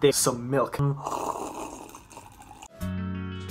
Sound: slurp

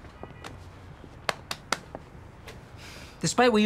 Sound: patting

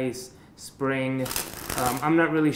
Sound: cards flutter

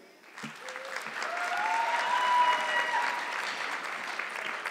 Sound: audience clapping

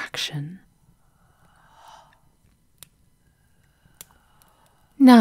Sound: the whispers moan, then are suddenly cut off, like a final breath

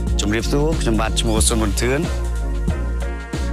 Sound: speaking in Khmer language

